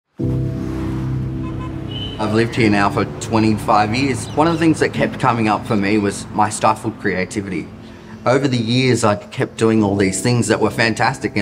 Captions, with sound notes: (gentle music) (cars hooting) - I've lived here now for 25 years. One of the things that kept coming up for me was my stifled creativity. Over the years I kept doing all these things that were fantastic